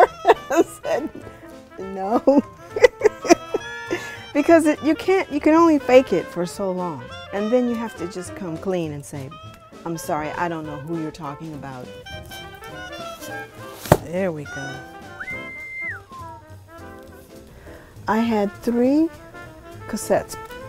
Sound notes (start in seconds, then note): 14.5 whistles